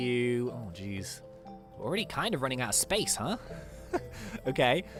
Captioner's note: giggles